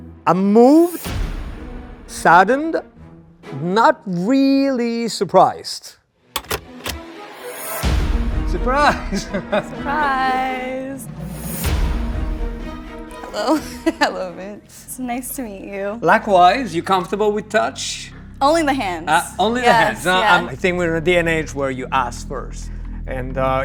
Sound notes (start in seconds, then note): 6.8 dramatic music; 13.3 chuckles